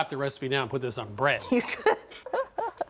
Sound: laughing

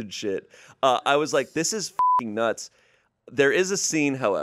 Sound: beep

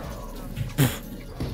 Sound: blows raspberry

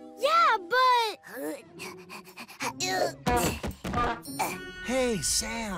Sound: panting

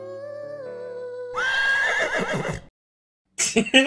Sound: horse neighing sound effect; laughing

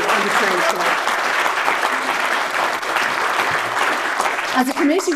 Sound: audience clapping

